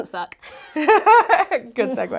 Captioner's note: both laughing